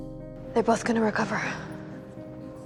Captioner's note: voiceover